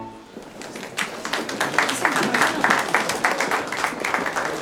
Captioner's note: applause